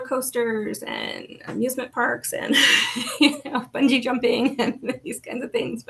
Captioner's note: laughs